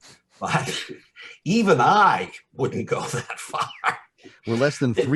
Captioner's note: laughing